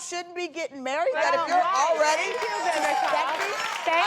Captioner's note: applause